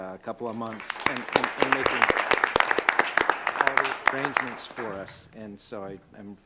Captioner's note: applause